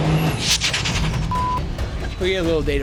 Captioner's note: car engine revving; beep